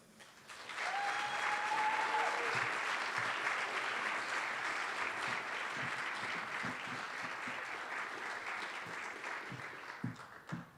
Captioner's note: applause